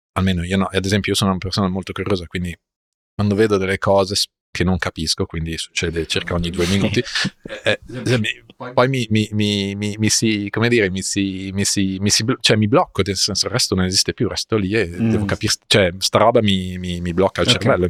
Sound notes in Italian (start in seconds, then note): 6.5 risate